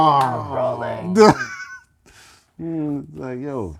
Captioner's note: laughter